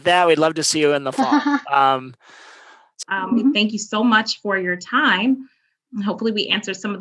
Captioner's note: laugh